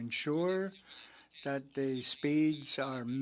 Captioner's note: speaking French